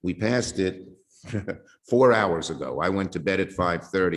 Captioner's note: laughing